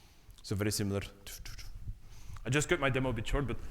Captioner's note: vocalizes